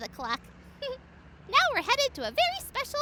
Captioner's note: laughs